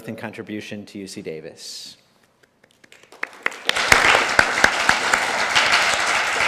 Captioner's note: applause